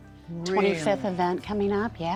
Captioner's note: gasps